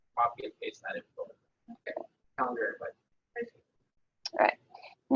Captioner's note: audio drops